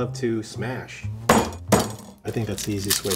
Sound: board banging

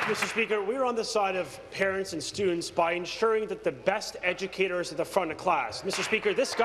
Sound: applause

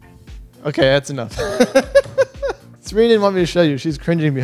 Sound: laughs

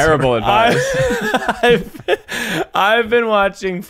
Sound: laughing

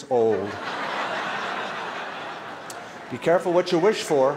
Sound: laughter

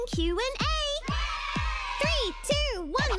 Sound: cheer

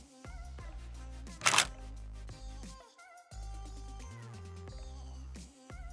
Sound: shutter click; upbeat background music

